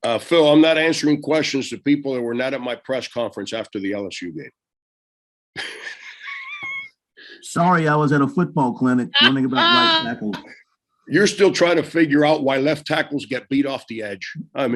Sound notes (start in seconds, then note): 5.6 laughS; 9.1 Frank laughing